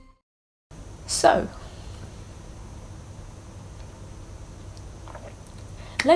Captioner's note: sips tea